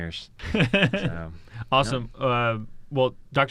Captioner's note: laughs